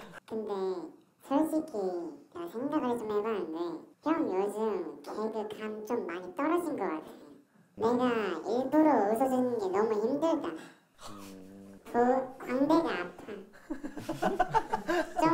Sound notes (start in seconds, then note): 10.6 gasp